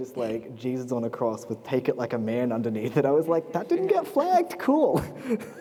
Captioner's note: laughter